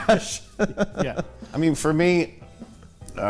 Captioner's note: laughter